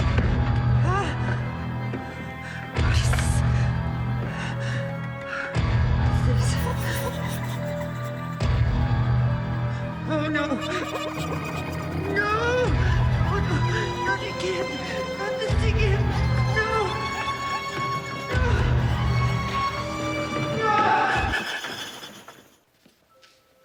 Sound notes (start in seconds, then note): 0.1 menacing orchestral accent; 3.4 gasps; 4.3 Aja gasping over menacing orchestral music; 6.7 echoing ghostly chattering; 18.4 gasps; 23.3 vaguely unsettling tinkling tones